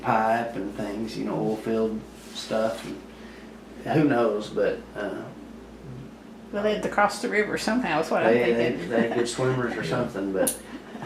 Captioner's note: laughs